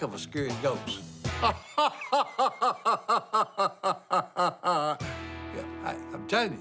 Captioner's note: pretend laughing